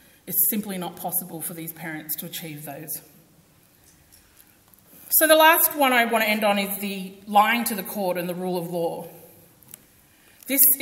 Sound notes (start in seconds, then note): none